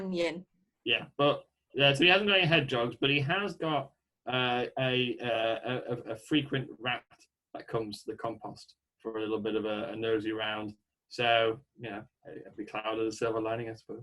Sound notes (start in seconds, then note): none